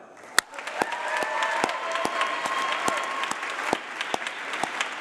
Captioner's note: applause